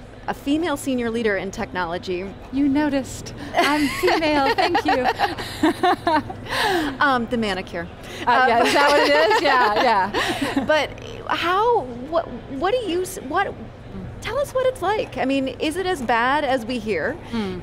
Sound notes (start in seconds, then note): 3.5 laughs; 8.6 laughs; 12.4 laughs